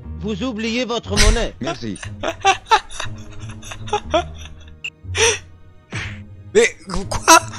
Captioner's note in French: rires